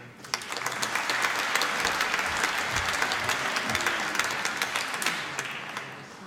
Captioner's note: applause